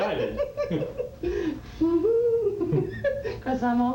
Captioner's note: laughs